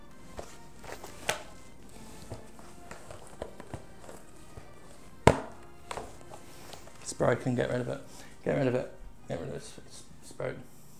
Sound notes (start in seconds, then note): 0.8 rustles, strap snaps; 2.2 fabric rustles; 5.9 CLUNK, rustles; 7.0 mutters